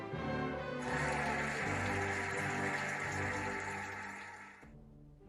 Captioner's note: cheering and applauding